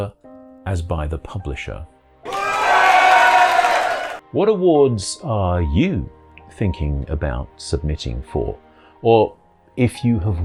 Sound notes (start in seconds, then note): 2.2 applause